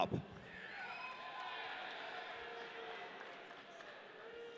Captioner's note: audience cheering